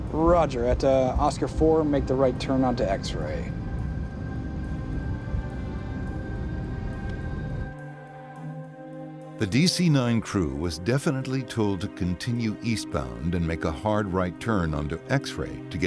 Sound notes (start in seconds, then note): 3.8 airplane engine roaring; 7.2 sinister music